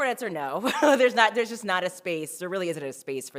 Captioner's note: laughs